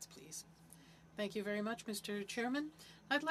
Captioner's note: speaking French